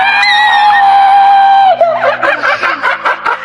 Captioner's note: Orm screaming